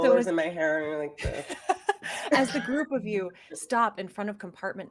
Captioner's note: laughing